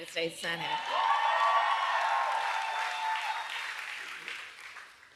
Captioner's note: applause